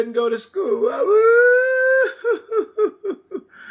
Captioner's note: crying